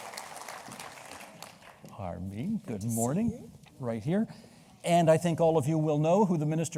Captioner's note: applause